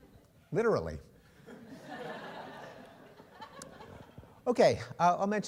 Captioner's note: laughter